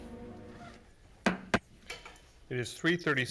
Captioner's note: gavel banging